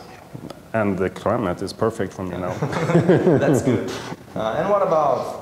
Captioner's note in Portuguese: Risos